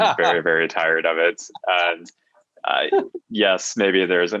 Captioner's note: chuckles